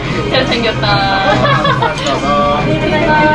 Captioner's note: laughing